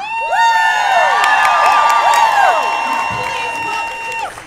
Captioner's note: cheers and applause